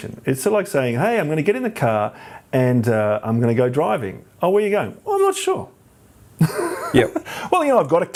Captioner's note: laughs